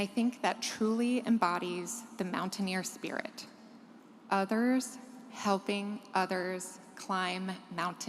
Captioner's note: none